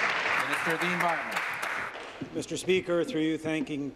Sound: applause

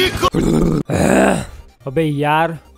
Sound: groans

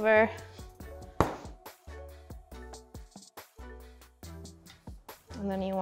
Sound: rolling pin clunking on counter

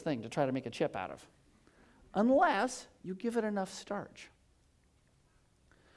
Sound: none

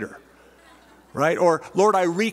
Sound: laughter

